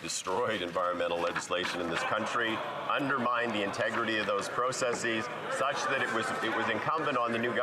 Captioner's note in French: voix de l'interprète